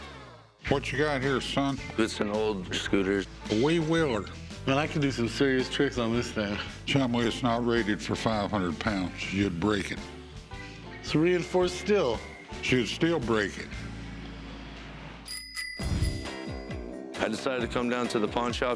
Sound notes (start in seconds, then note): 15.2 cash register chiming; 15.8 upbeat music